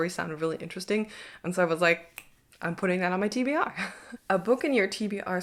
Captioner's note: chuckles